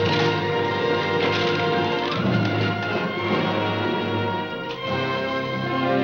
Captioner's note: clattering